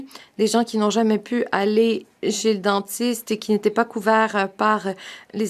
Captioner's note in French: voix de l'interprète